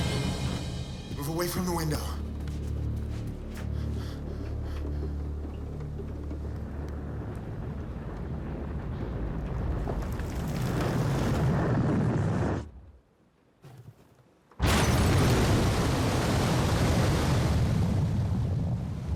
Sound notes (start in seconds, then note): 14.6 glass shattering; 16.9 water bubbling